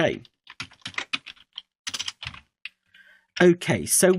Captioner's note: keyboard typing